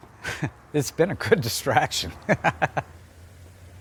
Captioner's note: chuckles